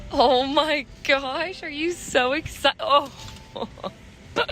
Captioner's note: laughing